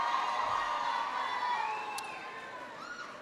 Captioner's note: applause